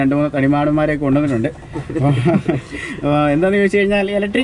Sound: laughing

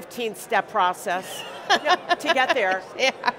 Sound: laughs

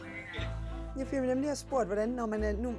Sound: speaking foreign language

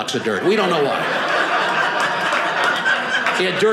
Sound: audience laughing

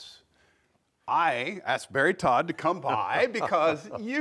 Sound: laughs

